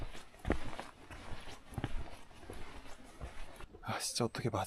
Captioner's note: footsteps devoid of all energy